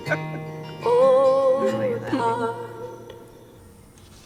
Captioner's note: chattering